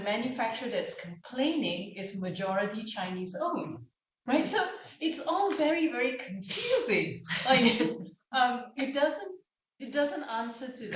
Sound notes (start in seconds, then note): 3.5 laughter